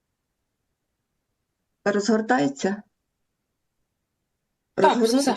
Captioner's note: foreign language